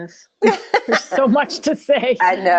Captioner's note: laughter